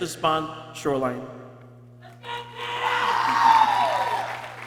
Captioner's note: people cheering